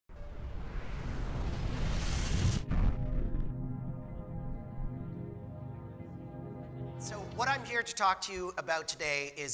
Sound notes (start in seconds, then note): 0.2 whooshing